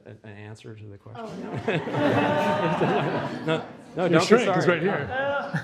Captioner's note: audience laughs